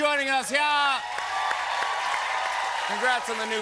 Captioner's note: cheers and applause